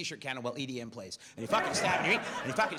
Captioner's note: audience laughs